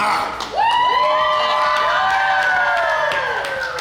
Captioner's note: cheering & Clapping